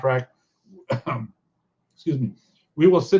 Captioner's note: coughs